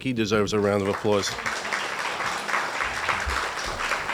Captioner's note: applauding